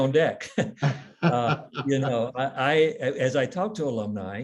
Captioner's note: laughs